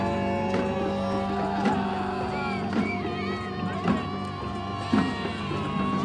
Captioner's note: loud wailing continues